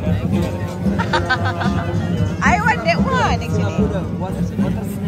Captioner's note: laugh